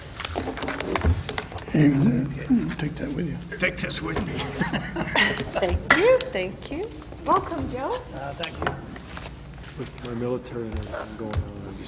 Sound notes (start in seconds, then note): 3.5 chuckles